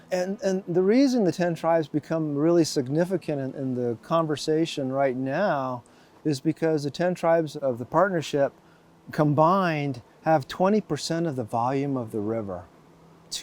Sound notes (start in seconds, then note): none